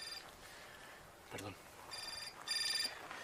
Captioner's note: whispering